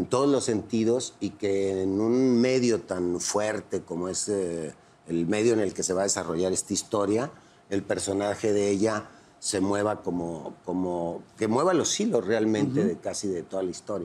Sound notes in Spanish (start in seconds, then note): none